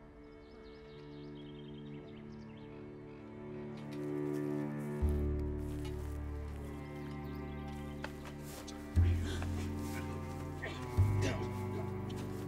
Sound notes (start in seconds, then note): 0.8 intense Music; 8.8 muffled Struggle